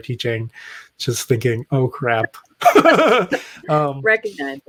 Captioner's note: laughs